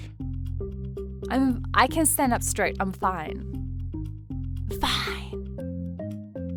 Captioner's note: whispers; club Music